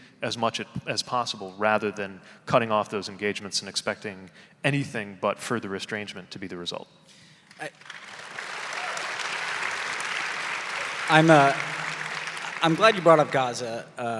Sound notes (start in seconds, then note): 7.6 audience applauding; 7.8 audience cheering